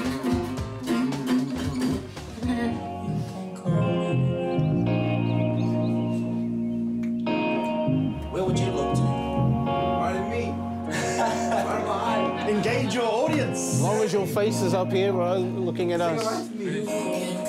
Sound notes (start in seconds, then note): 0.2 guitar playing; 3.7 birds chirping